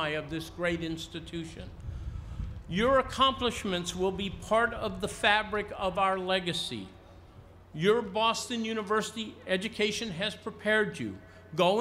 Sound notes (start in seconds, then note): none